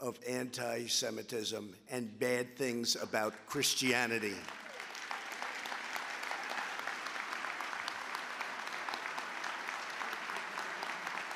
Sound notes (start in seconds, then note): 4.2 applause